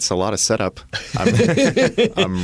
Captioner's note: laughter